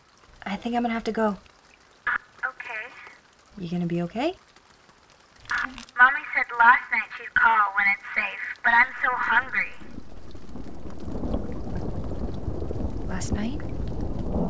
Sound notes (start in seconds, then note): 11.1 thunder crashing